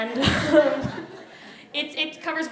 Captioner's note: laughter